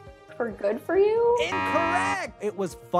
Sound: buzzer beeps

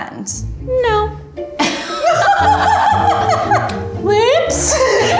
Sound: both laughing

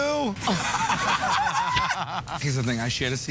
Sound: laughter

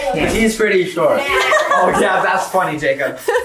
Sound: group laughs; laughs

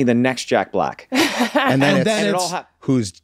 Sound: laughs

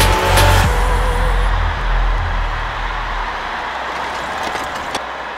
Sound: crowd cheering

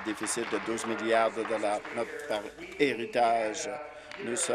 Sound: applause

